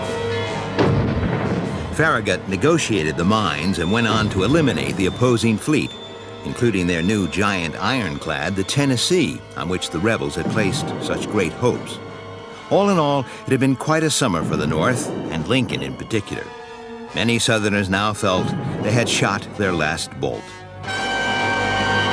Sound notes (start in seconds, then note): 0.7 booming; 21.8 dramatic orchestral music